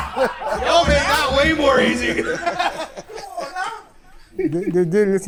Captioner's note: laughs